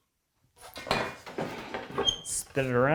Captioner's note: saw on desk clanking; opening vice squeaking